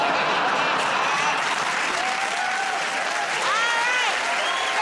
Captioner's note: cheers and applause